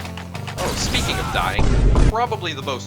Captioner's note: medic tf2 dying noises